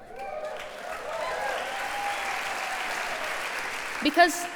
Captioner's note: applause